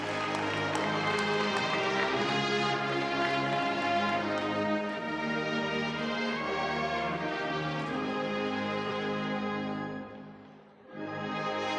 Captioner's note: cheers and applause